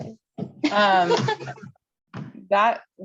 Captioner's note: laughter